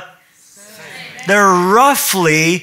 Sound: audience in unison

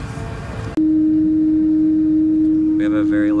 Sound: loud buzzing

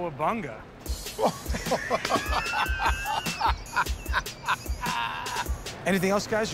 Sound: laughter

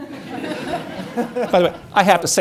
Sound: audience laughing

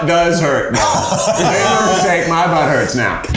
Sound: laughing

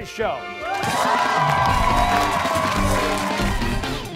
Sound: cheers and applause

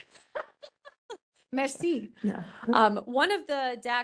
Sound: laughing

